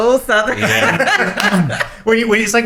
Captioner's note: laughing